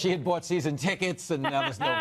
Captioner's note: laughter